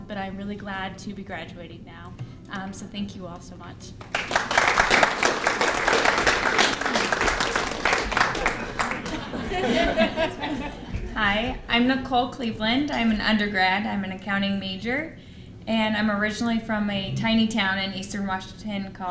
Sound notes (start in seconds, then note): 4.0 applause; 8.3 laughter